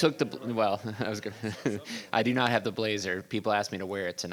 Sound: chuckles

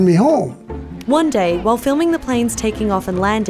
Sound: voiceover

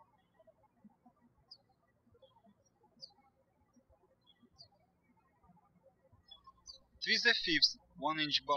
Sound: birds chirping

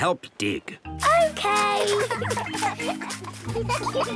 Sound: giggling

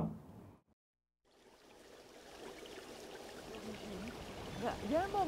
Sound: running water; speaking foreign language

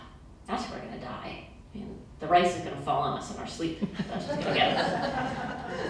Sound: laughter

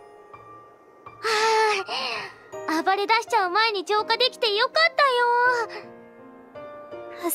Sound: sigh

